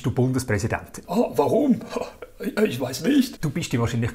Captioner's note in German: französischer Akzent